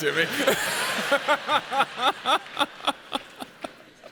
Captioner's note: audience laughs